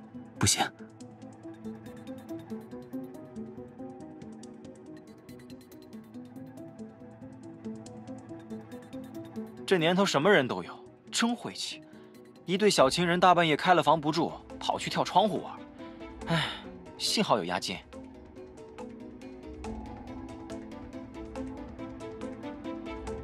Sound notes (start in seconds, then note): 16.2 sighs